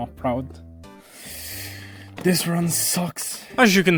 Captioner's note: inhale